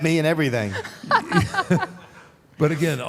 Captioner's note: Michelle laughs